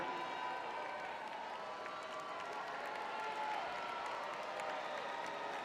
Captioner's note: crowd cheering